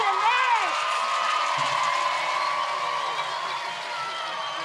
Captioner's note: cheering, applause